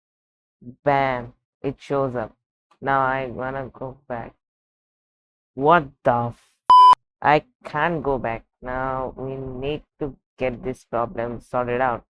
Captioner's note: beep